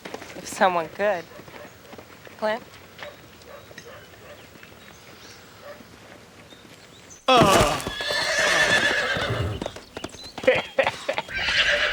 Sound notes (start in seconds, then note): 7.3 groanin; 9.1 horse neighin